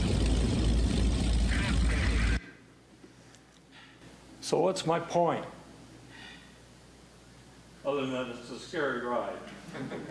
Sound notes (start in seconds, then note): 0.0 plane engine rumbling